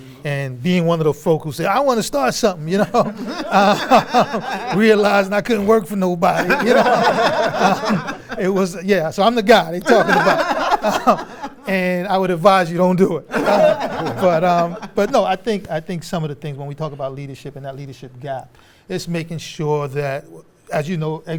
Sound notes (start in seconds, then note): 2.7 laughter; 6.3 laughter; 13.3 laughter